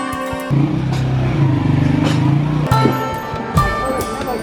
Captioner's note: gentle music; motorcycle engine revving; gentle music continues